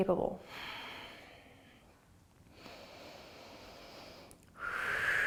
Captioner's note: breathing